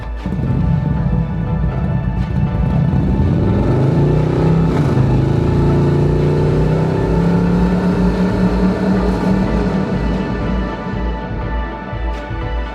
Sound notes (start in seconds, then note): 0.2 motorcycle engine revving; 3.0 motorcycle departing